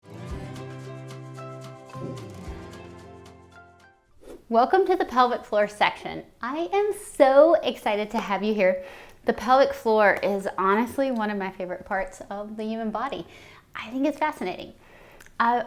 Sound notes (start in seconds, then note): 0.0 bright music; 4.2 screen whooshes